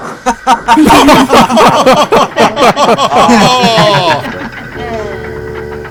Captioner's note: group laughter